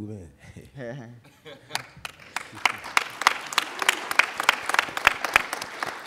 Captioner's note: applauding